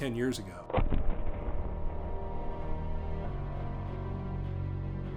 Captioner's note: thunderous booming